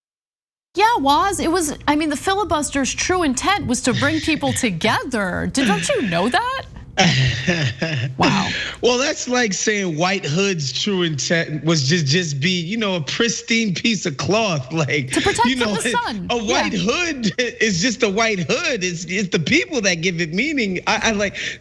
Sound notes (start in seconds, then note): 5.5 laugh